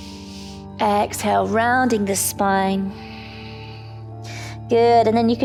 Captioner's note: inhales; exhales